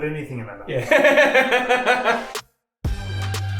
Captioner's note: laughs; upbeat music